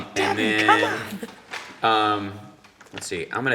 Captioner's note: chuckling